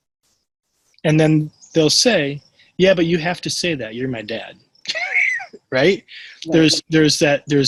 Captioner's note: laughs